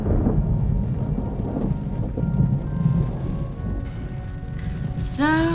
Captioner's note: sound of thunder and rain